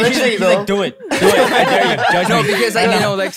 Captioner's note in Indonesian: tertawa